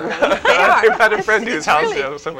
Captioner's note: laugh